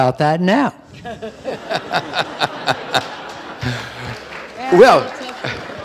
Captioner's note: audience laughing